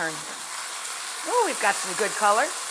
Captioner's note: meat sizzles in hot pan